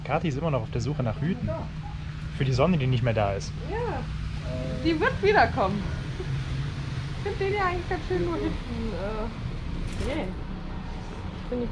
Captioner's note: laughter